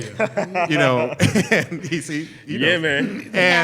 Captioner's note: laughter